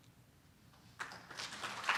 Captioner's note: applause